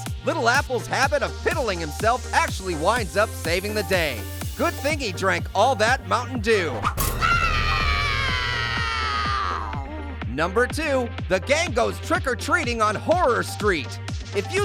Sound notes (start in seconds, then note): 6.9 Little Apple screaming